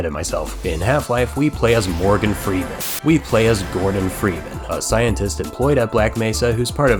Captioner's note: static